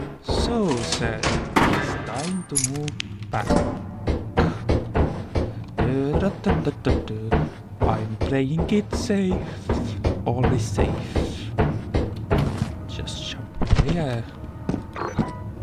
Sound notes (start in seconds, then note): 5.0 humming a tune